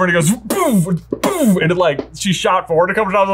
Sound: imitates speed boost noise

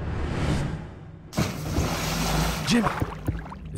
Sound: water splashing

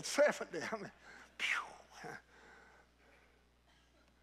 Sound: chuckles

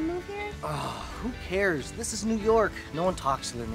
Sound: sighs

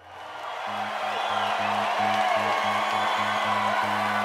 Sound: crowd cheering

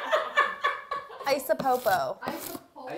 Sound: everyone laughs; paper ripping

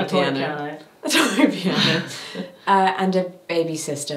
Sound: laughs

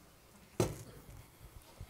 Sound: thud

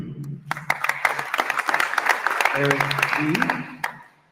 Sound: attendees applauding

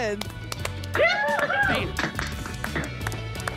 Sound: applause and cheering

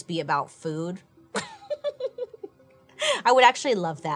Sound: giggling

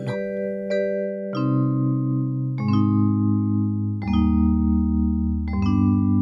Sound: door opens and closes

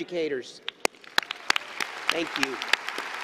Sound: applause

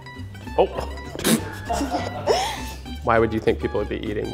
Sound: everyone laughs

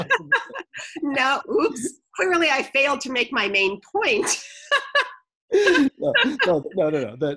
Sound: laughs

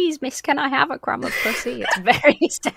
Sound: laughs

